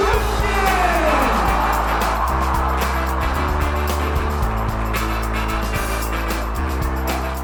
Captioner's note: crowd cheering; upbeat music